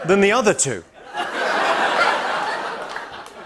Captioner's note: laughter